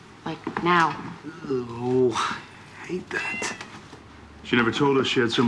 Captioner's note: cat meowing